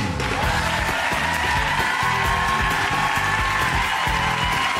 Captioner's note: audience applauds